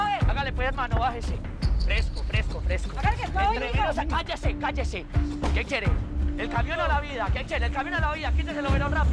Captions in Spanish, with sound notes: HÁGALE PUES, HERMANO. BÁJESE. FRESCO, FRESCO, FRESCO. [Hablan al unísono] - CÁLLESE, CÁLLESE. ¿QUÉ QUIERE, EL CAMIÓN O LA VIDA? ¿QUÉ QUIERE EL CAMIÓN O LA VIDA? QUÍTESE EL OVEROL RÁPIDO.